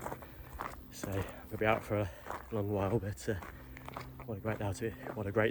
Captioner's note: mispronunciation